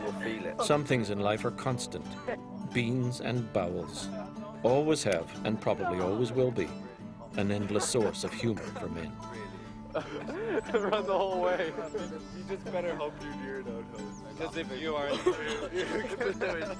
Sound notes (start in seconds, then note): 0.4 voiceover; 10.2 laughing